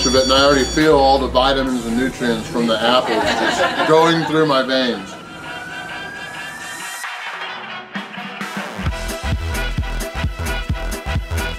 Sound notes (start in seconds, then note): 5.1 crowd, laughing